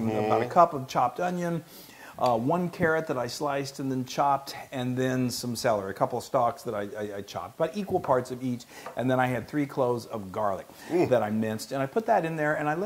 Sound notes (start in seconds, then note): none